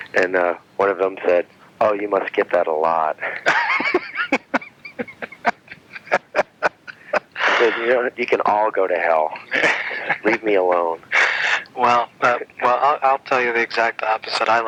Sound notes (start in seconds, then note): 3.2 laughing